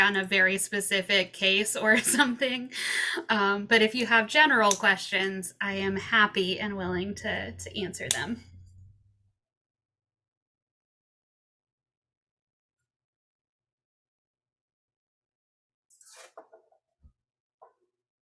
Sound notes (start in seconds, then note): 1.9 chuckles; 8.4 silence